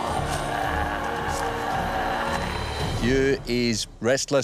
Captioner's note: growls